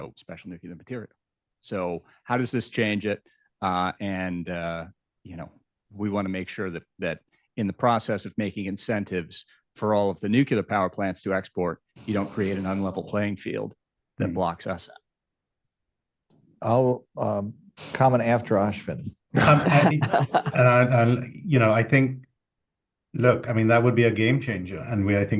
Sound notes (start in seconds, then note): 19.3 laughter